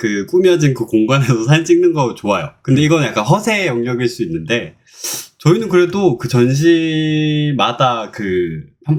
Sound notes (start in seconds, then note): 4.9 inhale